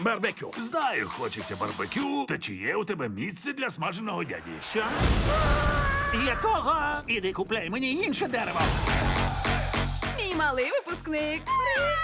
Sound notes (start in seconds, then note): 4.9 screams